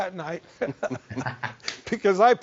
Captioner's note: laughing